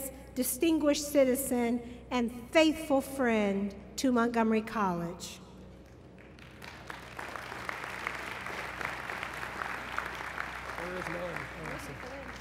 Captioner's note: applause